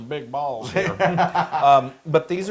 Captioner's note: laugh